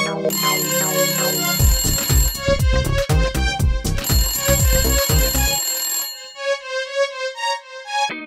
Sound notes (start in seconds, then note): 1.5 phone rings